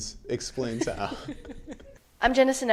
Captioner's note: laughs